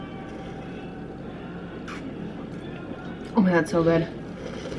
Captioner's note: sipping hot chocolate; sipping hot chocolate